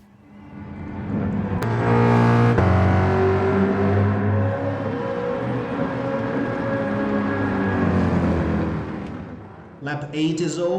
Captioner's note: engines revving, cars noises